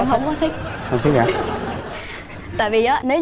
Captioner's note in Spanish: risas